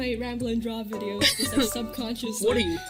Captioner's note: laughs